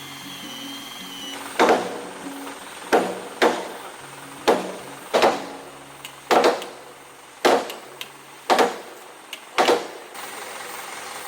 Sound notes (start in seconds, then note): 1.6 sound of hitting with a hammer